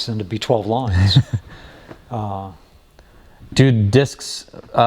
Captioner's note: laughing